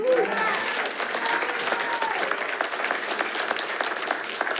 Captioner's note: attendees applauding